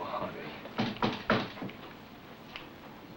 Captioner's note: knocking on door